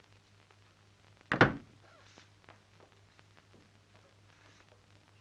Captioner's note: door shutting